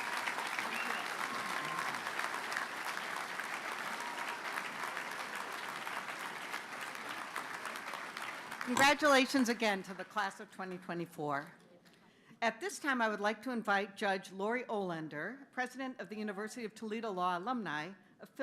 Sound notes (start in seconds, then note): 6.2 applause